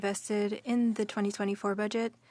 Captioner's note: speaking French